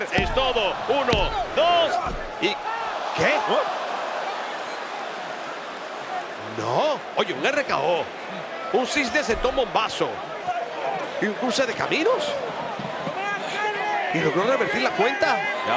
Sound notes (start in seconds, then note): 3.1 applause